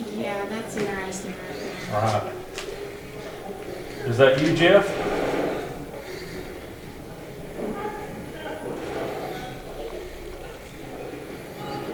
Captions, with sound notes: - Yeah, that's interesting right there. - Odd. Is that you, Jeff? (radio channel changing)